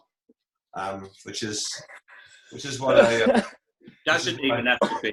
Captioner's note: normal voice